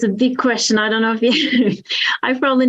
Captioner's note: laughs